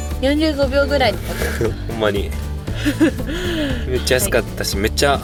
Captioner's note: laughs